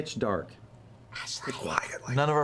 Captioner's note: whispers